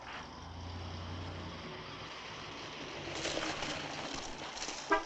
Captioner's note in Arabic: هدير محرك السيارة